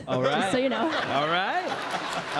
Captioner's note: background Laughter